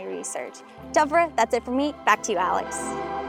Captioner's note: speaking Iñupiaq